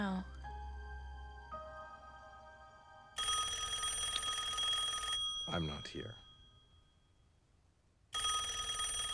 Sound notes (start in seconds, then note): 3.1 telephone rings